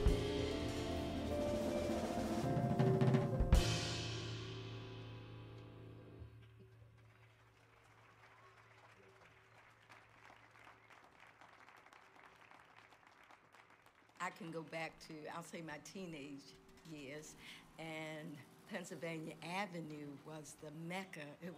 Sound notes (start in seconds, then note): 6.9 audience applauding